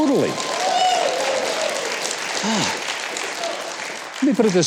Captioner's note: audience cheers